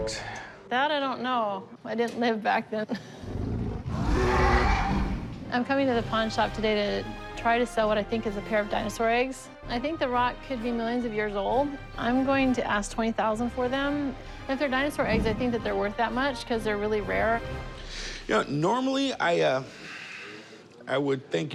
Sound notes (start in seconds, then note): 2.5 chuckles; 3.3 dinosaur roar